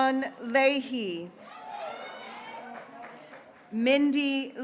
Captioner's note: graduates cheering